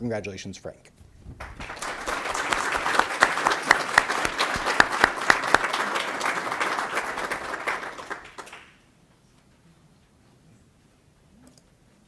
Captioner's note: applause